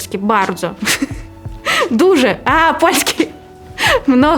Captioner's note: in Polish